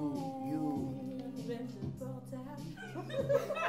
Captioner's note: rires